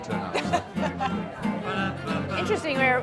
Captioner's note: laughs